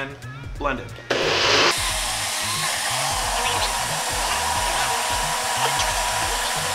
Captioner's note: sped up blender and speech